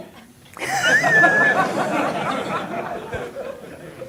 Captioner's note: everyone laughs